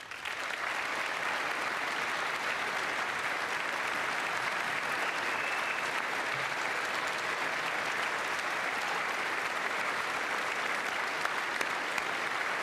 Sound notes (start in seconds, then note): 5.5 applause